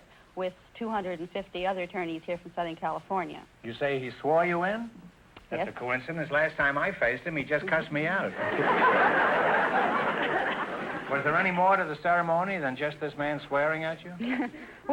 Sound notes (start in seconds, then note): 7.6 audience laughter